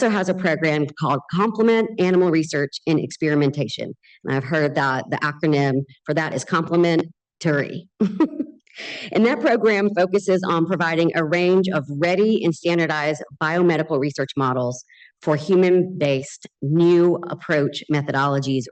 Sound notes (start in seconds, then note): 8.1 laughs